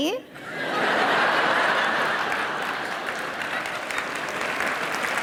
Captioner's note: audience laughing; audience applause